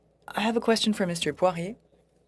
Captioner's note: speaking in French